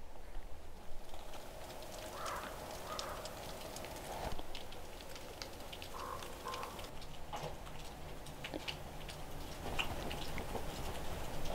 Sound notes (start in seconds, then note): 2.0 crows cawing